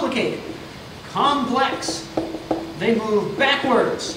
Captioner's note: marker clacks